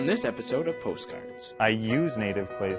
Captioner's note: voiceover